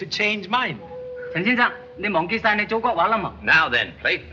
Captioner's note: speaks chinese